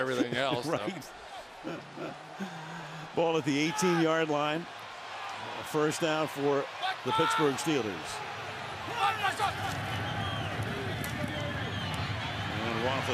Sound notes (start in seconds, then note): 1.6 laughter